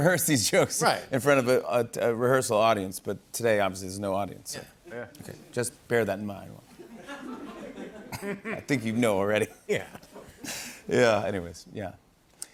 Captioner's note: laughter